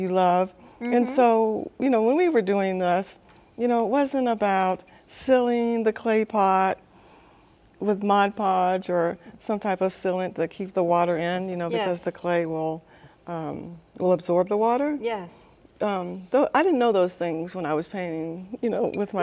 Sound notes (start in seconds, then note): none